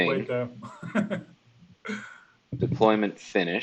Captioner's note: laughs